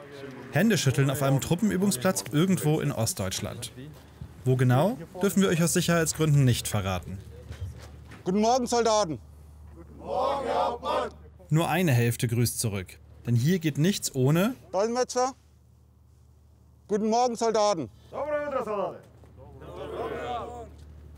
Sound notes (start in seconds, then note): 17.5 he translates into Ukrainian; 19.2 good morning greetings in Ukrainian